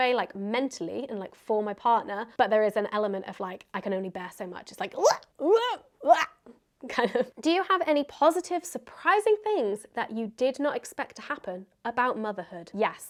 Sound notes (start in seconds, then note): 4.8 grunting